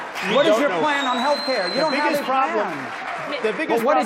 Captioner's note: applause